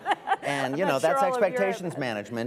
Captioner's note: laughs, laughter